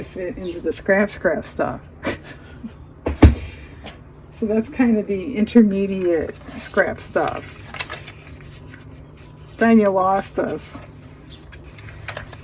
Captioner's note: laughs